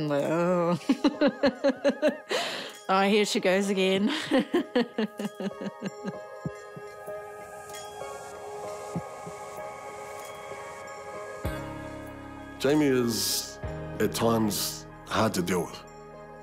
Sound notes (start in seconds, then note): 0.4 chuckles; 4.0 laughs; 7.3 ethereal music